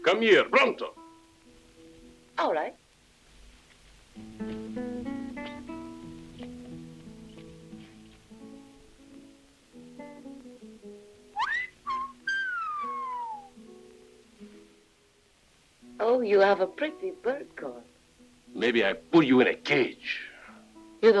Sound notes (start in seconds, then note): 4.2 gentle music continues; 11.3 Guadalupano whistles